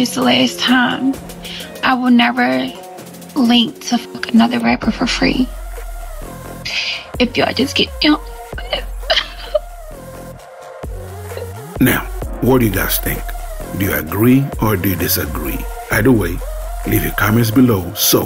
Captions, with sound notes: this the last time, I will never link to f*ck another rapper for free. If y'all just get me home, you know. (crying) - Now, what do you guys think? Do you agree or do you disagree? Either way, leave your comments below